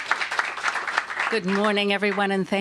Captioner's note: applause